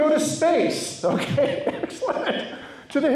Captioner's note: laughs